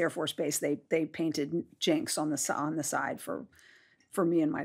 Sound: none

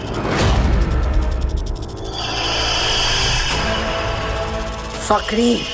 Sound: hissing

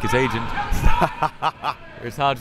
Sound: laughs

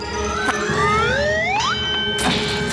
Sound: dinging

